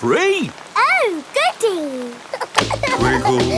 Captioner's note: giggling